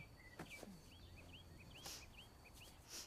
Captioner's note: sniffs